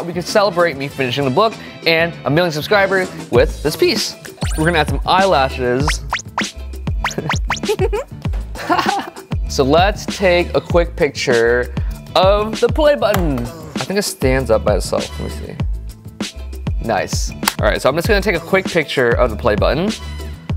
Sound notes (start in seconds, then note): 7.6 giggling